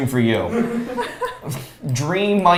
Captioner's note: laughs